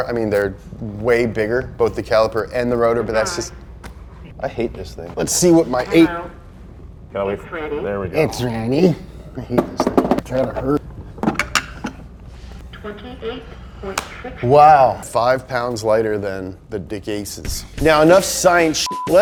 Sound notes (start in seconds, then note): 13.1 robotic Voice; 18.8 beep